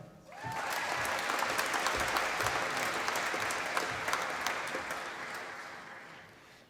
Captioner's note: applause